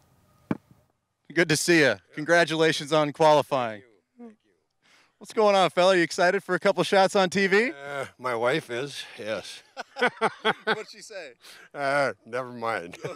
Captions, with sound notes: Good to see you, congratulations on qualifying. What's going on, fella? You excited for a couple shots on TV? - My wife is, yes. (laughing) - What'd she say? - Never mind.